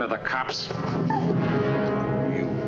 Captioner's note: gasps